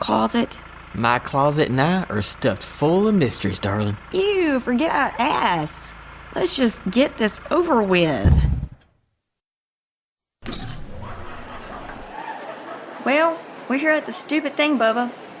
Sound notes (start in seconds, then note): 8.5 engine shuts off